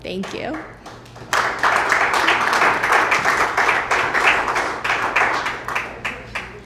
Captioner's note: applause